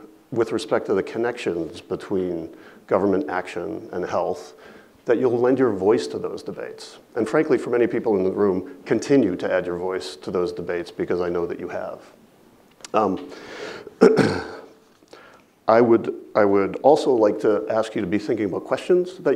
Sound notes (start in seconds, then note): 13.9 clears throat